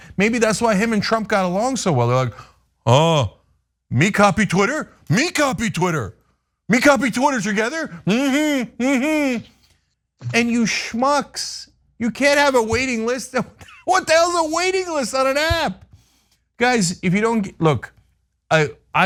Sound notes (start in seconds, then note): 13.3 laugh